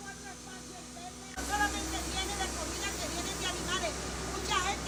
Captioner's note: speaking Spanish